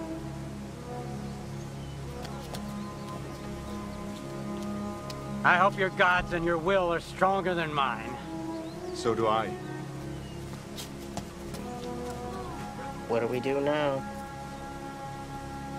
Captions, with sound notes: - I hope your god's and your will are stronger than mine. - So do I. (footsteps) - What do we do now?